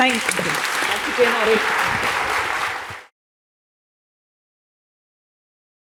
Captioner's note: applause